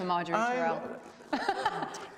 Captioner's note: laughs